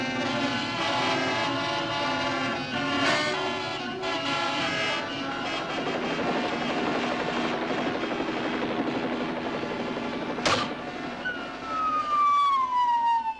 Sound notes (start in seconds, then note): 3.3 helicopter Sounds; 10.0 falling Sound